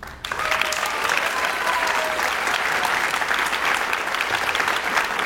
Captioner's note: audience cheers and applauds